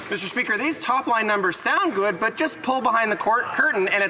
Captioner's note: some Applause